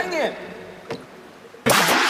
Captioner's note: bam!; water gun firing +1